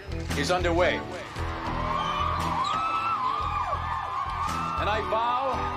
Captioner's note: inmates cheering